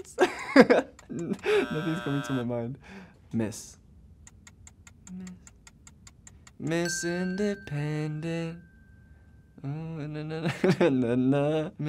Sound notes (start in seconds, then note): 0.0 chuckles; 1.4 alarm buzzes; 4.2 timer ticking; 6.8 bell rings